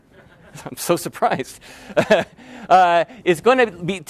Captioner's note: laughs